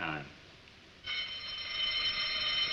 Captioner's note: fire alarm bell sounding